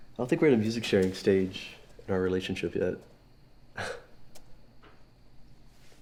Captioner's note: laughs